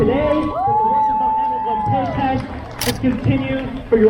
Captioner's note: crowd cheers